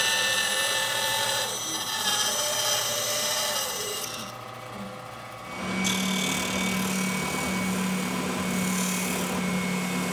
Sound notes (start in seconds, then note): 5.5 sander buzzing